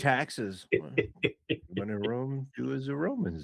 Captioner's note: laughing